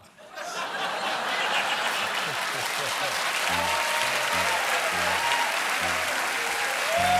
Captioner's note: laughter; applause